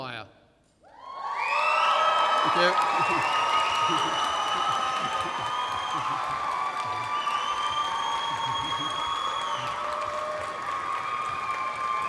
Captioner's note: applause